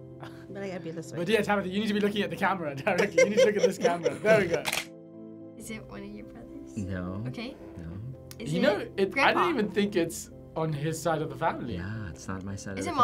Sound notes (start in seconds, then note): 4.6 camera shutter clicks